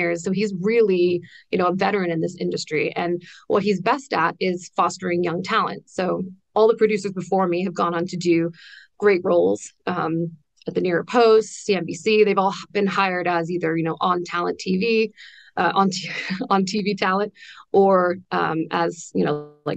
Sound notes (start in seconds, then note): 16.0 laughs